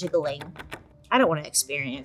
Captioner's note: metal rattles